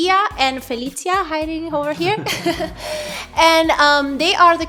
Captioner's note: laughing